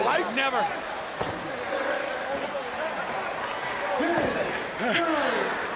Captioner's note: crowd chatter